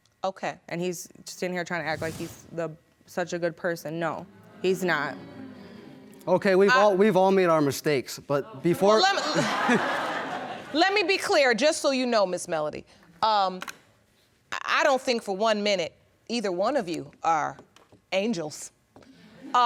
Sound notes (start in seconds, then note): 9.2 laughs; 9.2 all laughing; 14.5 audience laughing